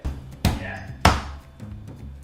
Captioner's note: knife banging against board